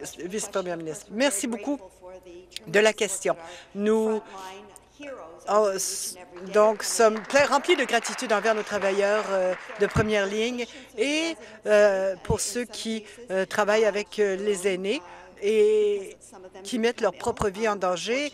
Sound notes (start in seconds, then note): 10.5 some Applause